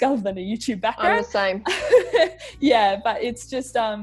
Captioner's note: chuckles